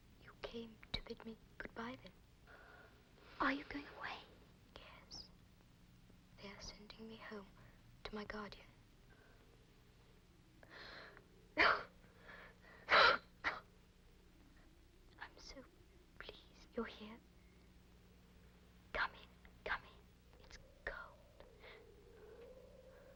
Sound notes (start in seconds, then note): 11.6 Helen coughs